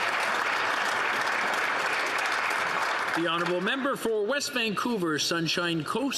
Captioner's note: some Applause